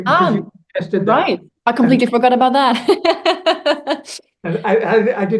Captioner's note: laughs